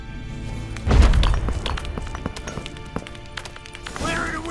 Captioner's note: thunderous boom, debris clatters